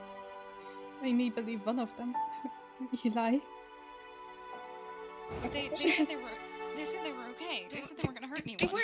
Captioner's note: scoffs